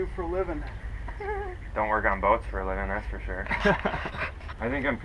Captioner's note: laughing